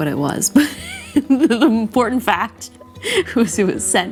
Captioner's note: laughs